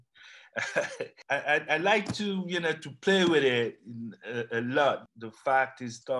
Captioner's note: laughs